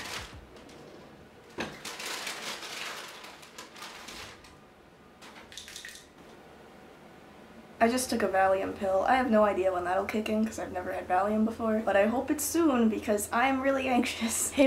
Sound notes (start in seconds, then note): 0.0 cabinet sliding; 0.0 supplies rustling; 1.4 paper bag crinkling; 5.5 medicine bottle rattling